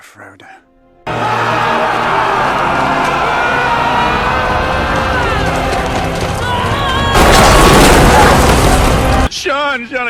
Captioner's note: battle sounds